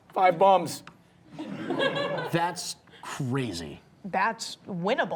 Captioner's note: audience laughing